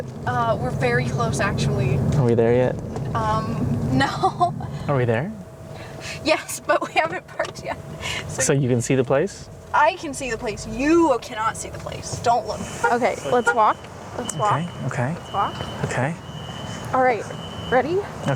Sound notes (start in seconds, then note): 3.9 laughing; 5.8 laughing; 12.7 car beeps